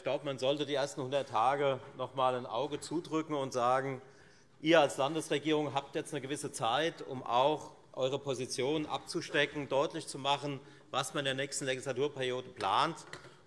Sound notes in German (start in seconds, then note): none